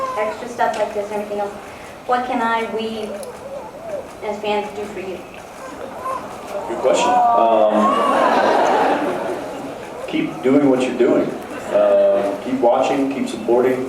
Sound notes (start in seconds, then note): 8.4 laughs